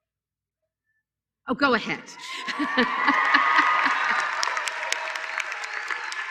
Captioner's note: applause